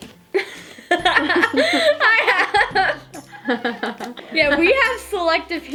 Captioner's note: both laughing